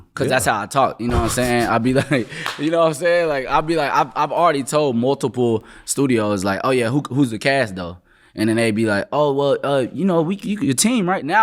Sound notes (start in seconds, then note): 1.1 chuckling; 2.2 hands smacking together